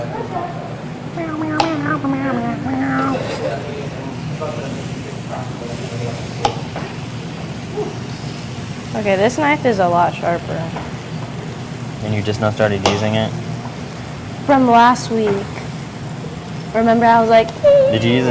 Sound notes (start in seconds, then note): 1.2 humming; 7.6 sizzling